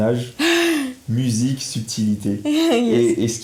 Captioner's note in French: Rires